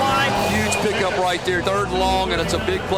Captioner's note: voiceover